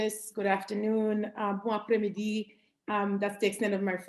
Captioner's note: spanish; french